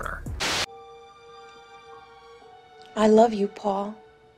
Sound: static hisses; soft eerie music

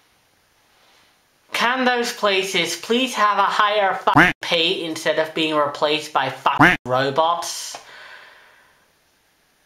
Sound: quack

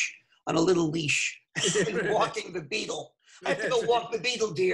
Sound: laughing

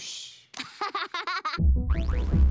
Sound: girl giggles; lively electronic music

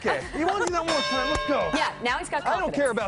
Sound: laughter

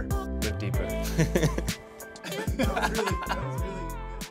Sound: both laugh

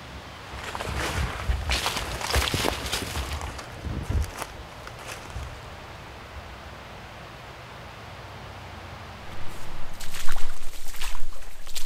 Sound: walking

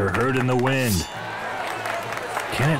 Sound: crowd Cheering

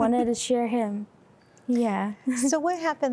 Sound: giggle

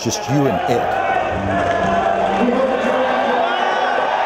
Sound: crowd cheering

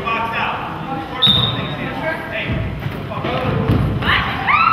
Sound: whistle blows

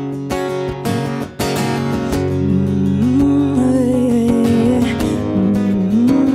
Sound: guitar strumming; rhythmic humming

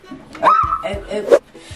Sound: screams

